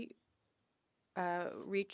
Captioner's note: speaking French